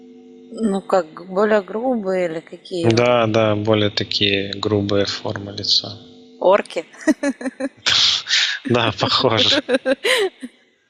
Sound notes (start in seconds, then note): 7.8 laughing